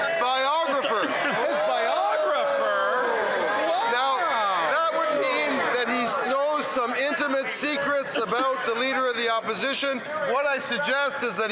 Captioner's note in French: voix de l'interprète